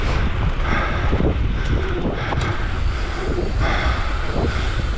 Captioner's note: deeply breathing